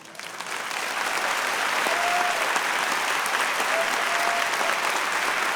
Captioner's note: audience cheering and applause